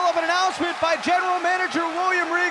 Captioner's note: crowd cheering